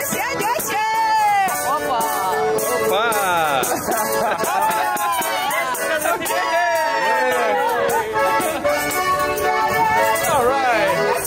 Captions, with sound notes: - Opa! - Opa! (laughing) (cheering) All right!